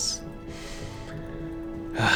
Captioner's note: inhales deeply